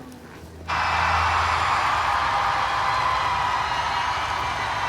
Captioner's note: crowd cheering